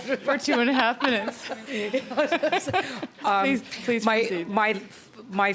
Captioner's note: laughter